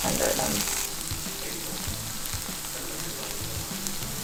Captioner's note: sizzling sound